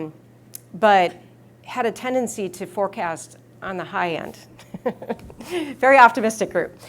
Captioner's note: laughs